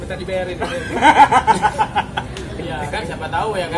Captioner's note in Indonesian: laugh